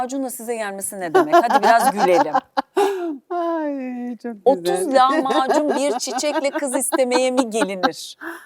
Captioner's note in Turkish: kahkaha